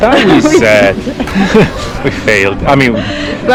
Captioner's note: laughing